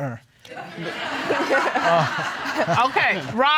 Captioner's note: all laughing